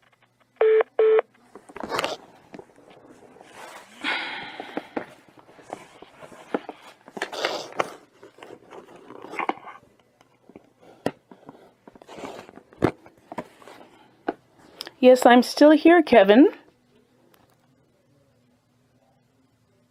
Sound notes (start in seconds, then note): 0.6 hold beep beeps; 4.0 frustration sigh